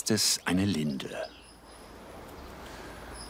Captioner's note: birds chirping